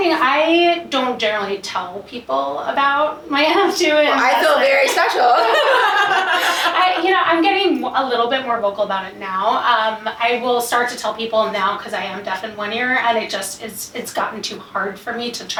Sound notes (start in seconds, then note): 4.9 both laugh